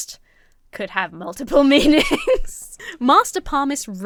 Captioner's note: laughs